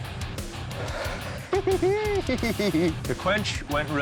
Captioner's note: cackling